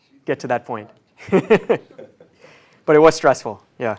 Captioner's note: laugh